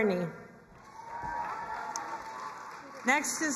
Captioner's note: crowd cheering and applauding